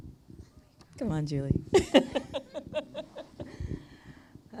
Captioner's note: laughs